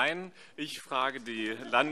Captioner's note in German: Heiterkeit SPD